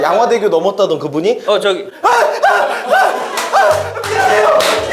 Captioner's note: argh!